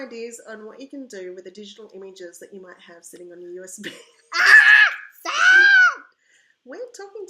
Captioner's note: laughter